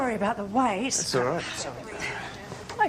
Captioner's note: groans